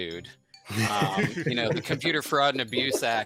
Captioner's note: everybody laughs